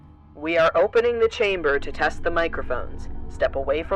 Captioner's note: over intercom